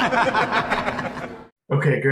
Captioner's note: men laughing